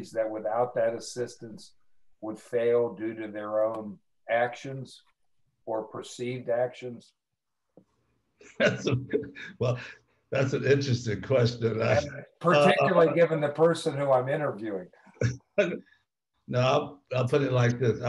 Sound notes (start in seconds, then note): 8.6 laughs